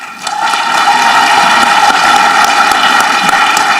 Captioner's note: audience clapping